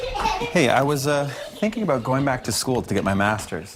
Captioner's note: children giggling